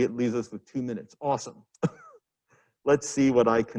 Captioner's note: laughs